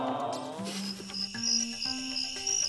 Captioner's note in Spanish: sonidos de grillos